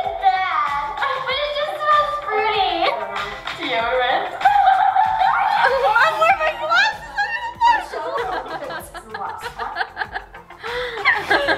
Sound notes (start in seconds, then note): 5.2 laughs; 8.3 laughs